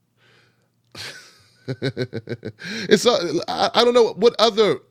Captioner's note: laughs